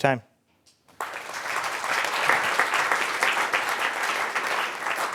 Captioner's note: applause